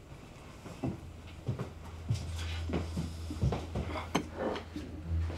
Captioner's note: footsteps retreating